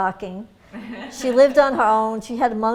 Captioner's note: laughter